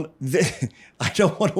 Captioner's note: laughs